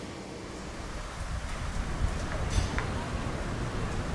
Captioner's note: quiet traffic